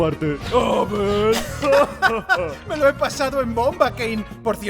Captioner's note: both laugh